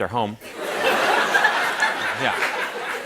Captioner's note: laughter